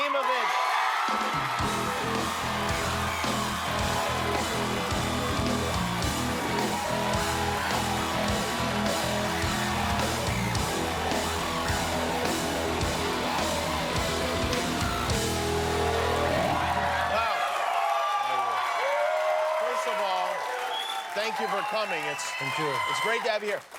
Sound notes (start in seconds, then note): 7.3 cheers and applause